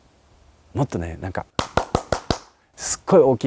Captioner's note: loud clapping